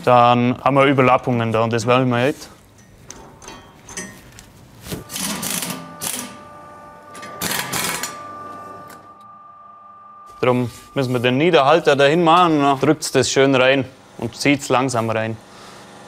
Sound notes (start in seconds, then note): 5.0 quiet rattling